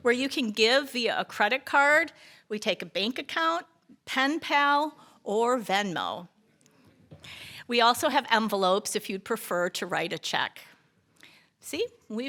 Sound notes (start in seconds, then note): none